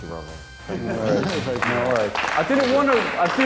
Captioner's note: applauding